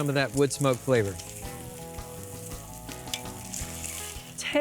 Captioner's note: sizzling